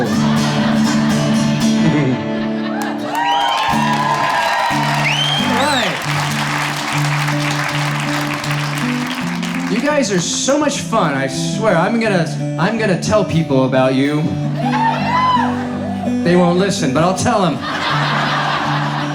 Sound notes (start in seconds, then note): 0.0 crowd laughing and cheering; 14.5 crowd cheering; 17.4 audience laughs